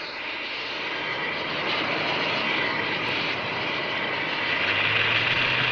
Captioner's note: heavy machinery roaring